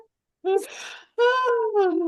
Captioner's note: laughs